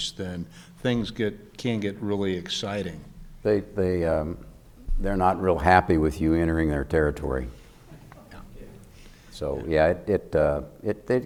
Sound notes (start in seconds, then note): 7.5 crowd murmuring